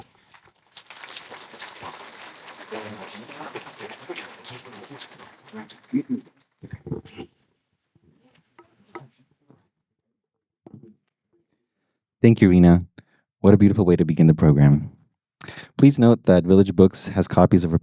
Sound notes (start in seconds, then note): 0.6 applause